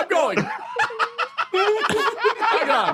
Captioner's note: laugh; laughs